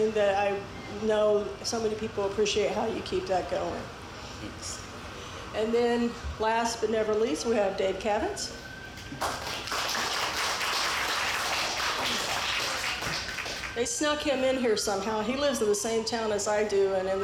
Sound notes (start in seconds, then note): 9.2 audience applauds